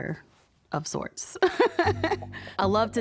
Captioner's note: laughs